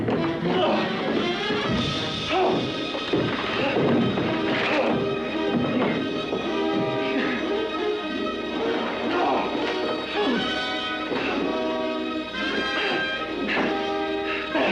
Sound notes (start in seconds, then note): 0.0 Bill grunts; 0.2 suspenseful music; 2.4 splintering sound; 5.3 suspenseful music; 10.1 Bill grunts